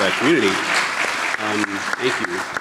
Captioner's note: audience clapping